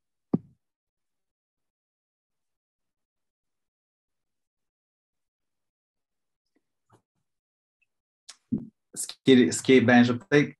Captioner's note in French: silence